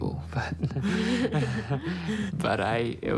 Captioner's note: both chuckle